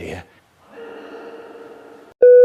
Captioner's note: echoing